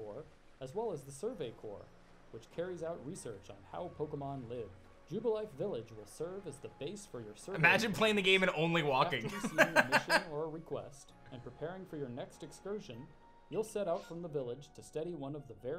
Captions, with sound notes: Imagine playing the game and only walking. (laughs)